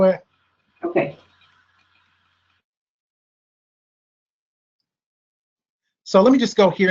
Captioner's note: silence